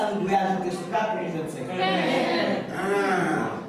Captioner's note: speak French